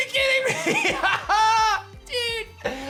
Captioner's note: laughs